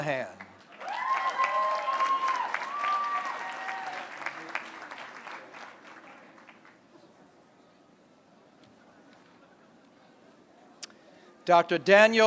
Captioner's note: applause